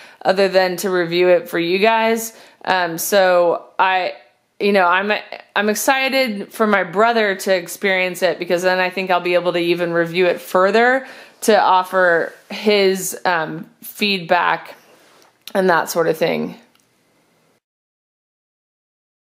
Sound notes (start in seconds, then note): none